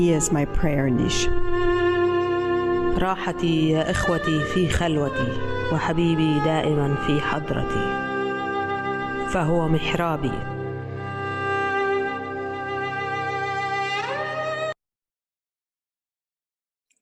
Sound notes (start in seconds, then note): 3.1 reading in Arabic